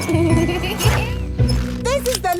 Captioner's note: laughing